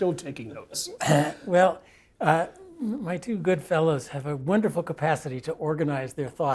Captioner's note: cough